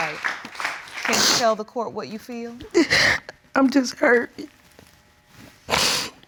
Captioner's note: sobs; sniffles